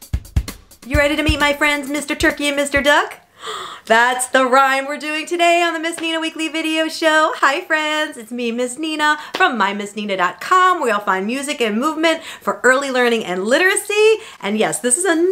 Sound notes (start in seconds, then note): 3.3 gasps